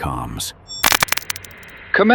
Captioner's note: static